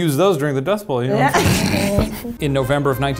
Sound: laughs

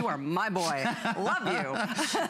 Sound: laughter

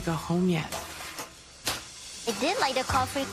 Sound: metallic scrape, oven door clunks

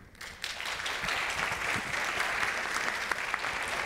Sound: audience applauds

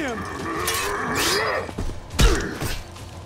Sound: grunting

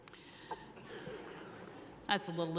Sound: audience laughs

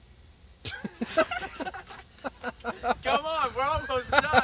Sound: laughs

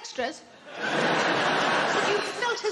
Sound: audience laughing

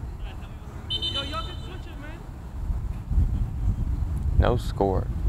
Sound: whistle blows

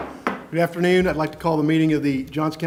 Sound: gavel

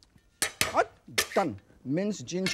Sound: knife clinking

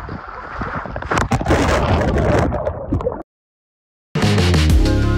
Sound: camera rumbling; upbeat music

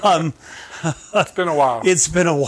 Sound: chuckling

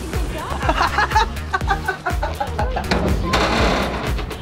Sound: Rocky laughs

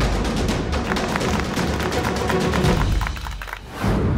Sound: applause

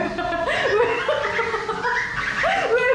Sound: is laughing hard

